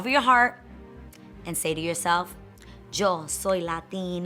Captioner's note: speaks in foreign language